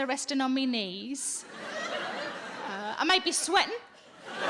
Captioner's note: audience laughing